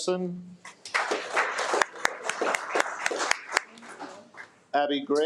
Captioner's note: attendees applaud